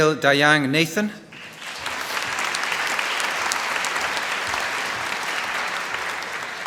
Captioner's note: applause